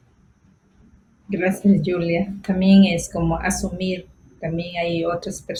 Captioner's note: speaking foreign language